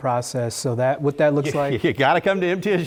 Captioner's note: laugh